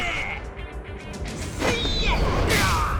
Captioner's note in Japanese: うめき声; 叫び声